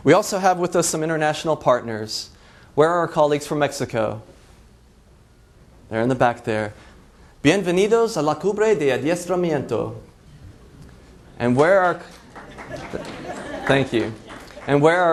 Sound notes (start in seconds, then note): 8.4 foreign language; 8.4 laughs